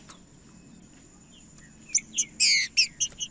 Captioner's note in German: trinca ferro cantando